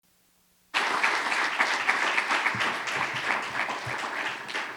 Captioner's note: audience applauding